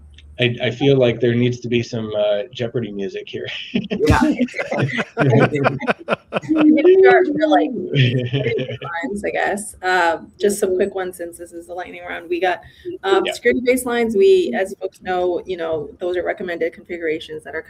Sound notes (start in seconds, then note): 2.4 all laughing